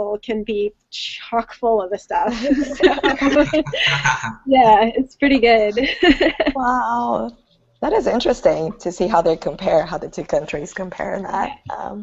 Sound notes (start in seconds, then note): 5.6 group laughing